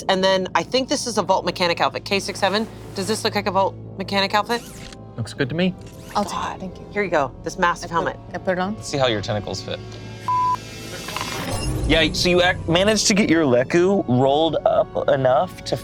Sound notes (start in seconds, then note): 10.2 beep